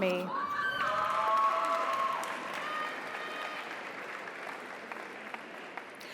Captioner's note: audience cheers; audience applauds